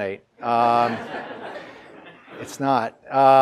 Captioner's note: audience laughs